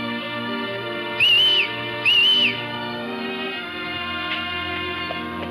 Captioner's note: Kentucky whistles